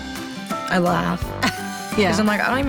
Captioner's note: laughing